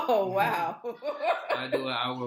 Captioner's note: laughing